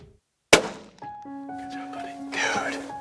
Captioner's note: shots fired